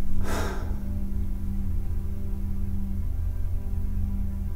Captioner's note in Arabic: تتنهد